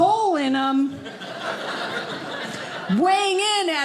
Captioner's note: audience laughing